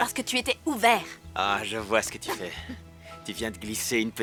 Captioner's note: laughs